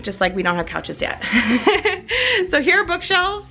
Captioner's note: laughs